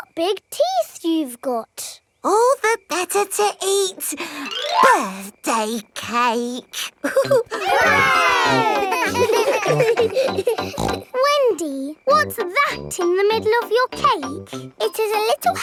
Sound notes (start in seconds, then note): 7.0 laughing; 7.0 chuckles; 9.1 snorts